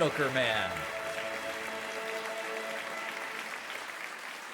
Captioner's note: audience claps